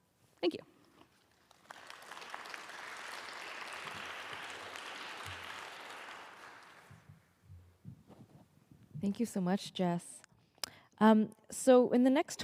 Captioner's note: applause